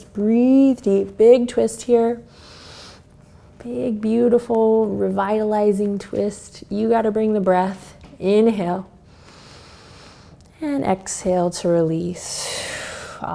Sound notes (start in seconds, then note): 2.3 inhales; 9.1 inhales; 12.5 exhales